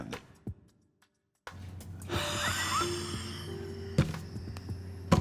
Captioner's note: chuckles